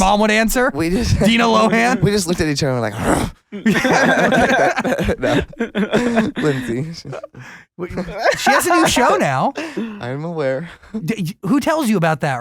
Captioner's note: grunts; laughs